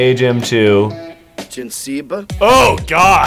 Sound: Sim language

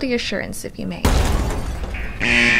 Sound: loud bang; alarm sound

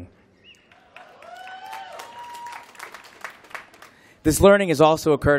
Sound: applause

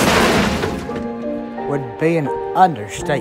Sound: crash sounds

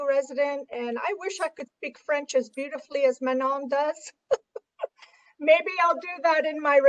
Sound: chuckles

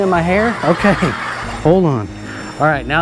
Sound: children laughing

